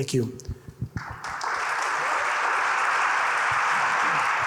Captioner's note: audience applauding